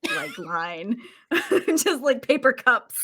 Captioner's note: laughs